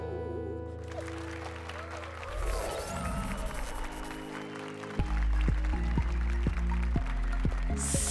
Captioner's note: applause and cheers